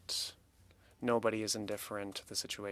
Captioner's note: speaking French